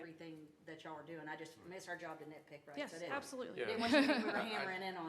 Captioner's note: laughter